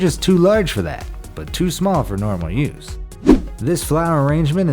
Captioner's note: air whooshes